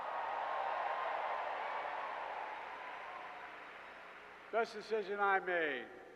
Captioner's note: applause